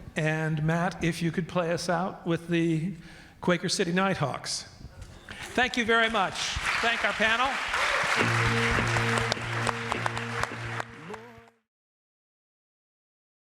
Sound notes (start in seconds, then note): 5.4 audience clapping